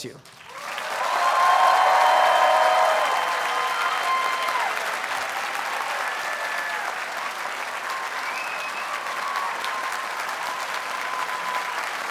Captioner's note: audience cheers and applauds